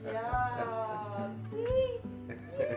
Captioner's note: laughter